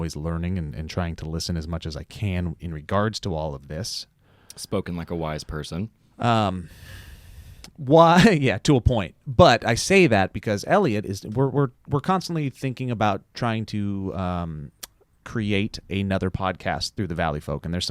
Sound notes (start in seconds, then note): 6.5 breathes deeply; 8.0 chuckles